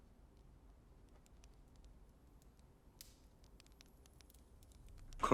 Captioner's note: fire crackling